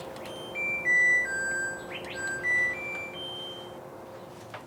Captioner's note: laundry machine chimes